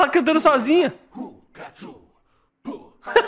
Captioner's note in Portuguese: risos